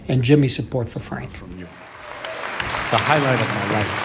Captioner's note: applause